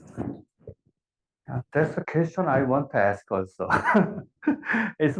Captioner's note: laugh